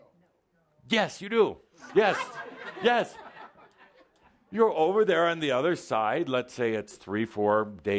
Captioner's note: some laughter